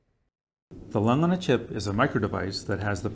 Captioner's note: voiceover